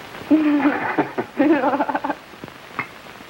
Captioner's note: both laughing